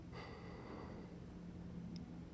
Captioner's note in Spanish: Suspiro